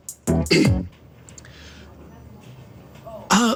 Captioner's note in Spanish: Carraspea